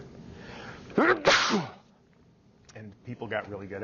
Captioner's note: sneezing